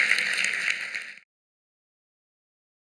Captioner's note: applause